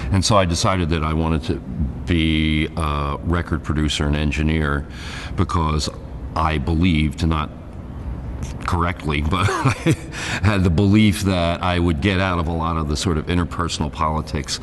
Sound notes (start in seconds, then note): 9.4 laughs